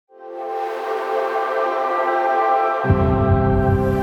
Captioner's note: series x startup sound